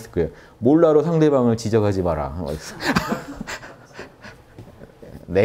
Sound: laughters

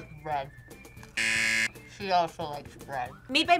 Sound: buzzer

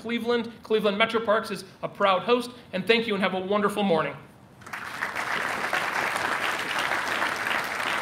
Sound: applause

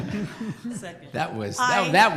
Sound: laughter

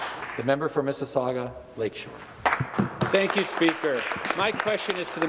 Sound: some Applause

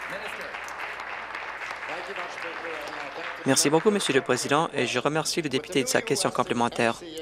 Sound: applause

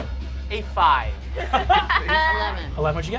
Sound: group laughs

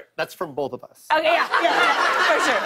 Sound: laughter

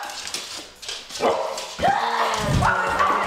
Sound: dog barks; screeching

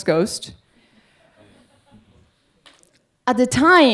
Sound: audience laughing

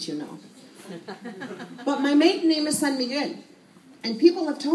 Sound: laughter

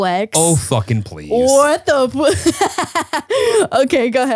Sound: laughs

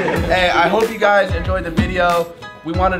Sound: all laugh

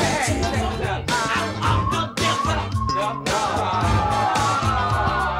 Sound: people chatting

